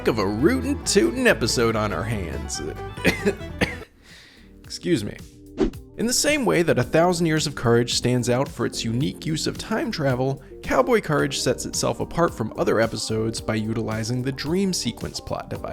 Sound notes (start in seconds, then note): 2.9 cough